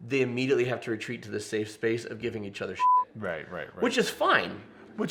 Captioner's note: beep